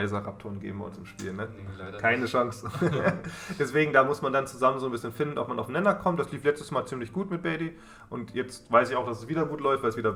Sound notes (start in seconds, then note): 2.6 laughs